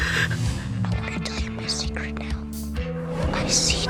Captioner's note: whispering